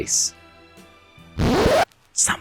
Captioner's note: record scratch